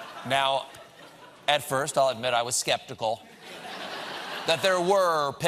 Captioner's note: laughter